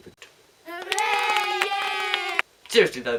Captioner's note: cheers and applause